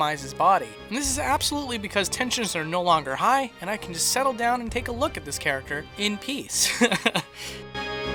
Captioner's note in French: rires